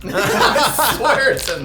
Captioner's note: all laughing